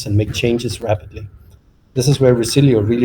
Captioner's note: none